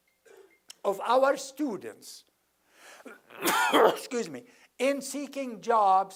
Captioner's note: cough